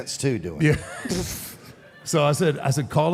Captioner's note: laughs